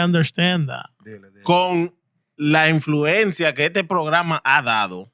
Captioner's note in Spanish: Hablando en idioma extranjero